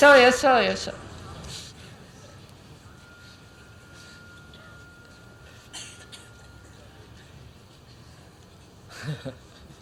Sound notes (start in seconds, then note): 8.9 laughs